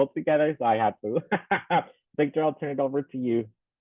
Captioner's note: laughing